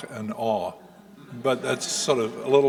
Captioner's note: audience chuckling